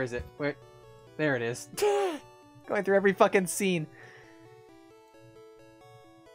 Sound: wheeze

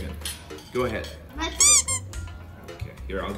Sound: squeak

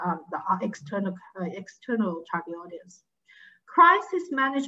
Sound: speaking faintly

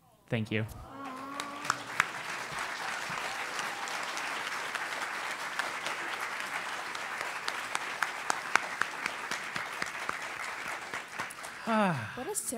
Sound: applause

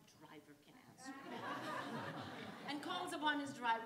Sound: audience laughs

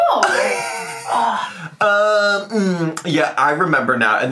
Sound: laughs

